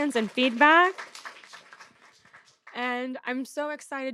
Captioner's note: audience applauding